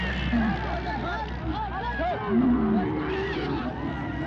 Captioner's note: men yelling; camels groaning